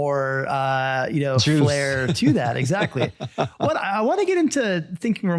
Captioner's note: laughs